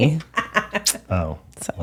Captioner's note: laughing